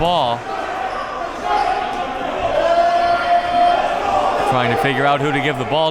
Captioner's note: audience and players chattering